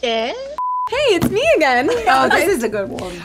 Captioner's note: beep